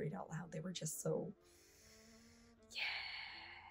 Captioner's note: breathes sharply